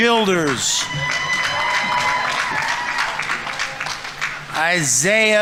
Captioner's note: audience members cheering; audience applauding